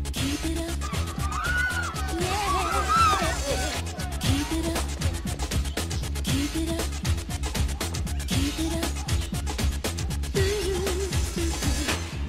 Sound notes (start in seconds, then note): 0.7 fans yelling